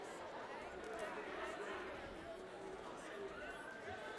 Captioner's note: yelling